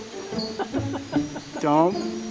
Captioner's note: laughing